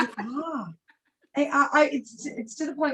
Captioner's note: laughs